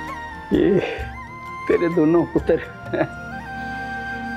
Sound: sighs

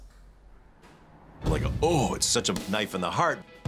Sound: groans

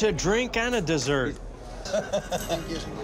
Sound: laughs

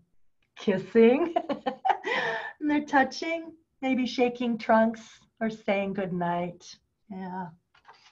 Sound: laughter

